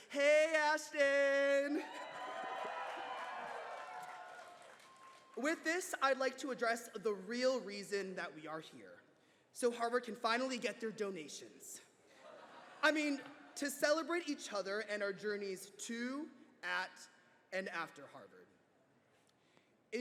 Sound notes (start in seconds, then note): 1.5 cheers and applause